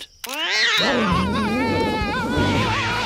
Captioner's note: cat screeches; screaming